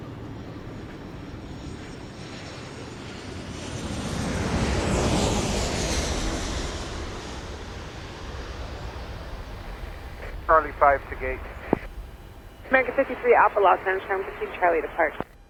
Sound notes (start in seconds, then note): 1.9 airplane engine whirring; 8.7 airport control tower radio chatter